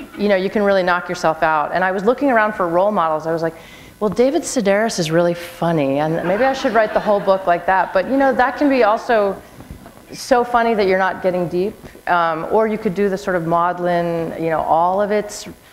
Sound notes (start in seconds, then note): 6.2 laughter